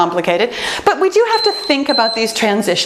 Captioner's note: timer beeps